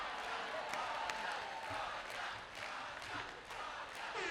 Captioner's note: crowd chanting "Rhonda"